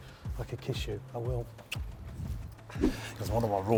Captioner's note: smooching